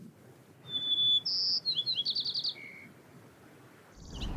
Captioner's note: bird singing